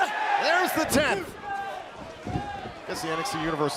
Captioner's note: crowd cheering